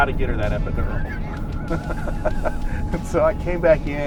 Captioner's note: laughter